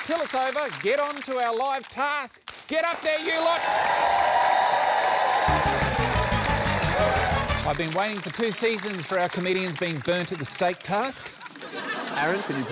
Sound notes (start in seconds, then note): 5.4 applause